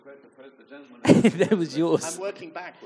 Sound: giggles

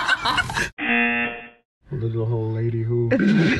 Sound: group laughs; buzzer rings

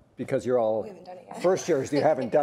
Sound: laughs

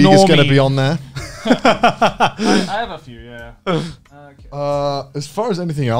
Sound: laughing

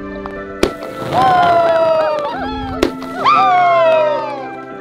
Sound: shout with excitement

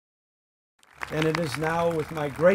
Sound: audience clapping

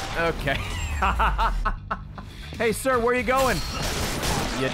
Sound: laughs

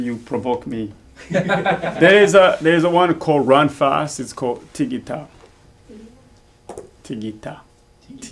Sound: all laugh

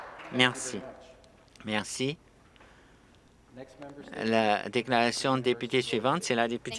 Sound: applause

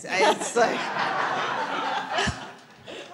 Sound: audience laughing

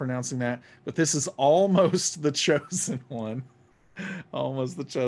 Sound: laughing

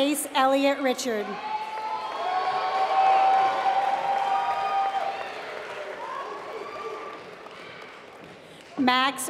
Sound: applause

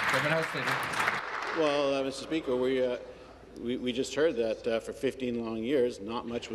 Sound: applause

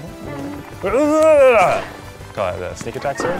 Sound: moans

